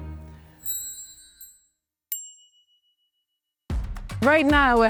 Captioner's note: bell chiming